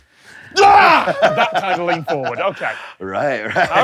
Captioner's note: laughs